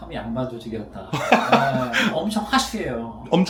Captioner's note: laughs